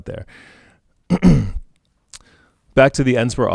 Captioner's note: clears throat